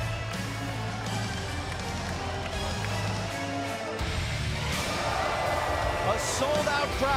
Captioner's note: crowd cheering